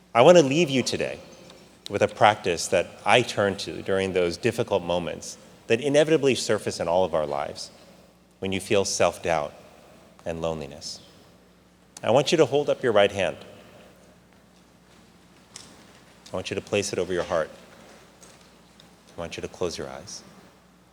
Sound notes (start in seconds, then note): none